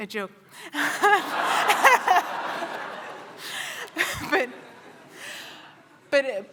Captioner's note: laughter